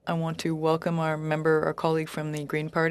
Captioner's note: speaking in French